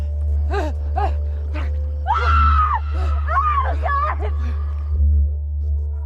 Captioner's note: gasping; screams